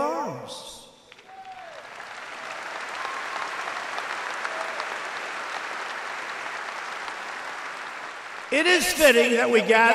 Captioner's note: applause